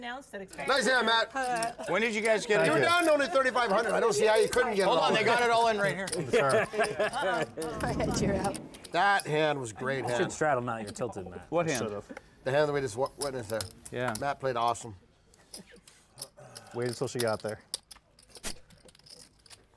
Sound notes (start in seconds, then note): 5.8 laugh